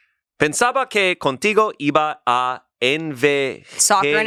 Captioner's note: speaks in foreign language